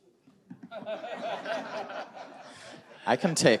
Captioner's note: audience laughing